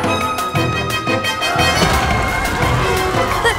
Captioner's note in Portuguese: gritos